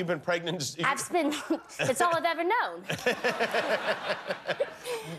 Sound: laughter

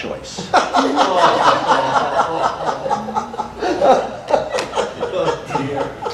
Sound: audience laughter

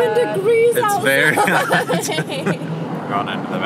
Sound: laughing

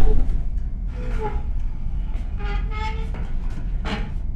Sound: chair creaking

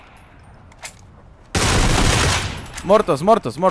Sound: shooting

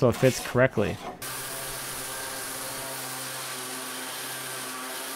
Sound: sander buzzing

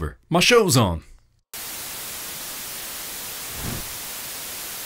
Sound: tv Static

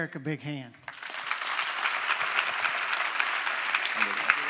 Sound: applause

